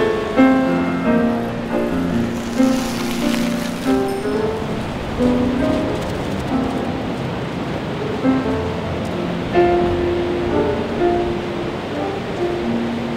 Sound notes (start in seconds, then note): 1.0 bike rolling; 5.7 dog running